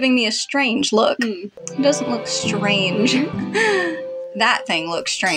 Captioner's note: romantic Music; swoon